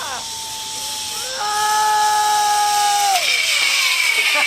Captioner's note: whirring; laughs